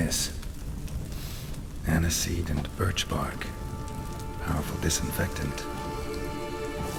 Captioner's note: sniff